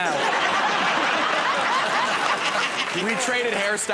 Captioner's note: laughter